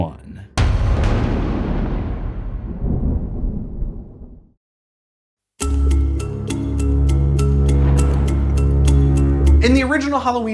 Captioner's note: thunder